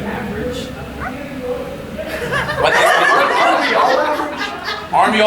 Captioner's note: audience laughing